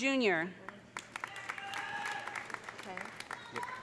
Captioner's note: audience applauding; audience cheering